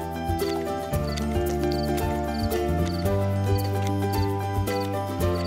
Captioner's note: crickets chirping